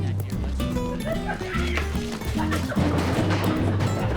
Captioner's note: laughs